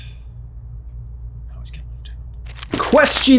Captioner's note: whispering